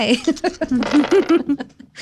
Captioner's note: laughing